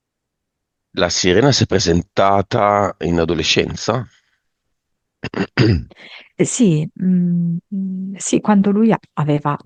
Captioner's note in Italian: schiarire la voce